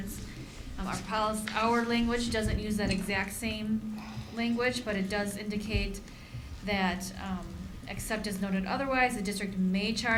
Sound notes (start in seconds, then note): none